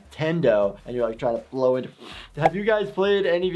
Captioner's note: blowing